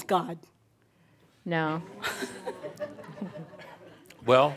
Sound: a few chuckles

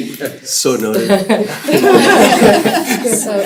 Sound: laughter

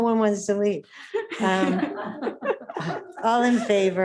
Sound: laughs

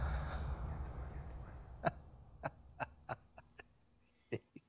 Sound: chuckling

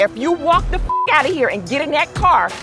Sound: beep

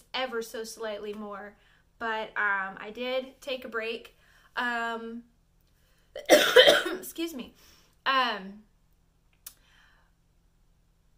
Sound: cough

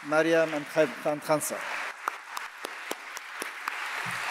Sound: audience applauding

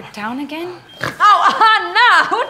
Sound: snort

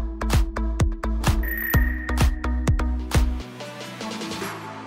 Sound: lively music; dinging

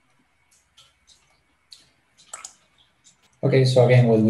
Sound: mouse clicking

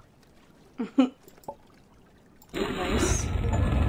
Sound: laughs

